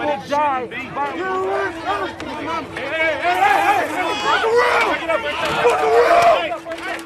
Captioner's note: shouting